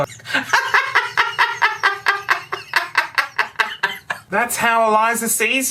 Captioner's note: raucous laughter